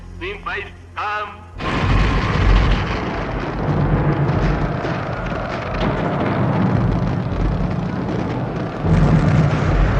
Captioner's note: sounds of fireworks